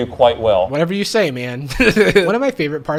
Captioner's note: laughs